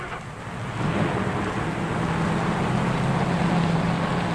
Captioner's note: engine rumbling